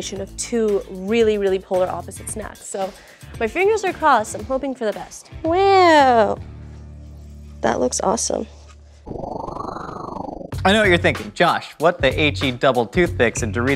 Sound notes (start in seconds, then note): 9.0 whoosh